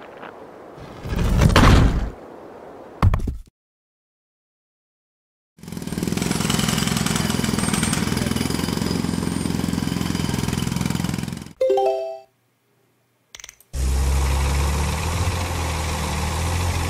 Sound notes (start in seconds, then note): 0.9 wall cracks and falls; 5.6 jackhammer sound; 13.7 crane motor engine sounds